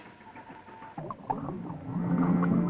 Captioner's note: bubbles gurgling; mysterious orchestral music